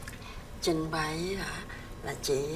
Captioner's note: speaking vietnamese